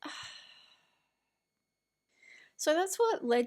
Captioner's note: sighs in disgust at profit-over-people mentality